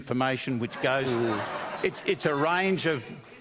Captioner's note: incredulous laughter